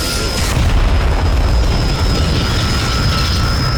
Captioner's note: explosion